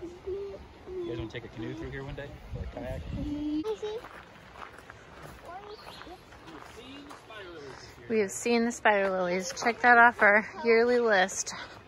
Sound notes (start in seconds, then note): 4.6 crunchy gravel, birds chirping